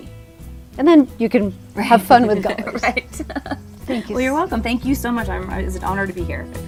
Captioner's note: laughs